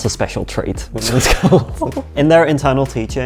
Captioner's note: laughs